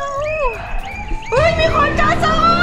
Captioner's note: whistle blowing continues